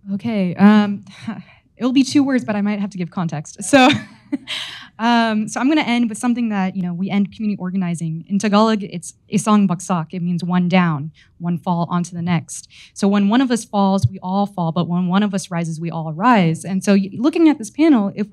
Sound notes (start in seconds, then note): 9.0 speaks in foreign language